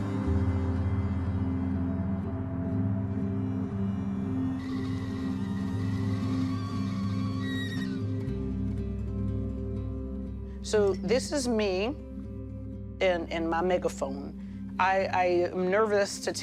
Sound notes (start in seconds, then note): 5.1 soothing music continues; 6.7 kettle whistling